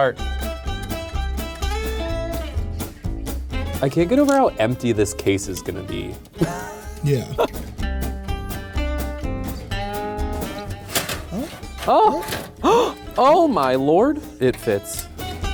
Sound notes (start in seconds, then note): 0.3 lively country music; 6.3 laughs; 8.4 lively country music; 12.6 gasping